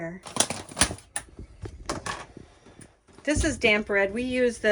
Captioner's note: lid Opening